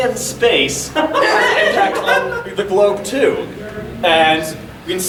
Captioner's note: audience laughing